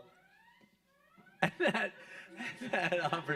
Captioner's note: alarm blaring; chuckles